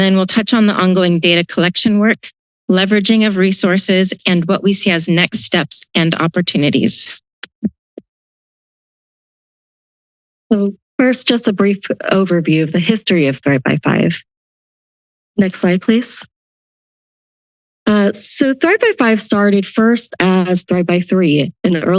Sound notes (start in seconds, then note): 7.8 silence